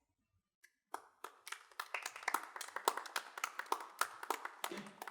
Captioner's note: women applauding